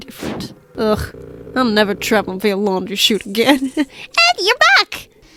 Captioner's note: laughs